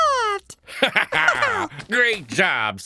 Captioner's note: laughter